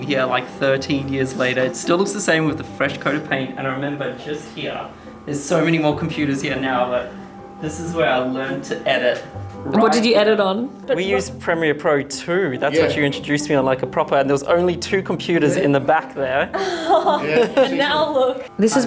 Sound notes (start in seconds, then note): 16.5 laughing